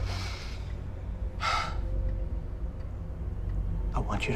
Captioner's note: sighs